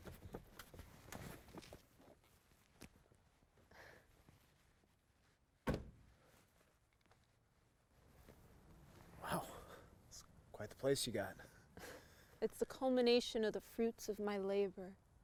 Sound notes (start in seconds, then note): 0.3 sound of Ana getting out car; 3.7 Ana takes breath of excitement; 5.6 car door slams shut